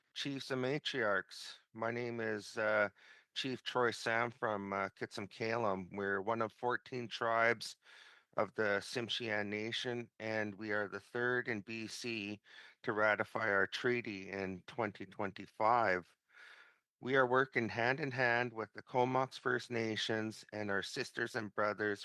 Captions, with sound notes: Good morning from the nation. [Speaking in alternate language] Chiefs and matriarchs, my name is Chief Troy Sam from Kitsumkalum, and we are the third nation in B.C. to ratify our Treaty in 2025.